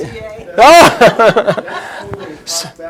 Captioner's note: chuckles